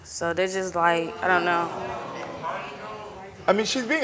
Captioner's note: audience exclaiming